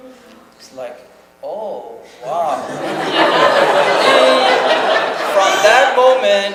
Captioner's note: audience laughs